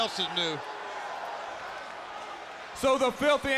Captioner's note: crowd boos